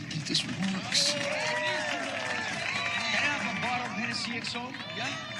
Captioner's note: crowd clapping and cheering